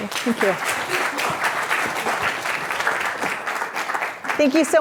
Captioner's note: audience clapping